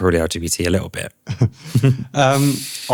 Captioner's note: laughter